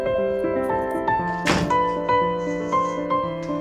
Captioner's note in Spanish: Puerta se cierra